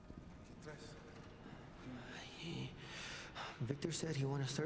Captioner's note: men speaking Spanish